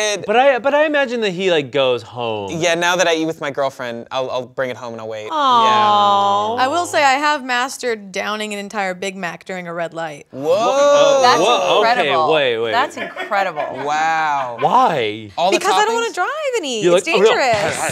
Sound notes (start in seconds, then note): 13.9 crewmember laughs